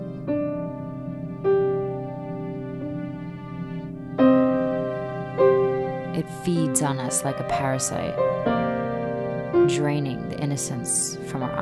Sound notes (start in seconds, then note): none